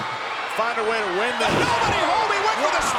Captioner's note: body thudding